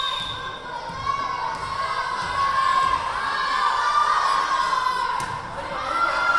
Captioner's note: whistle blowing; yelling